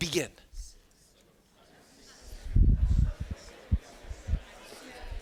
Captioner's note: students chattering